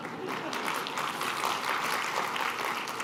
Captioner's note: applause